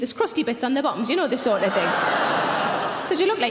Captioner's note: audience laughing loudly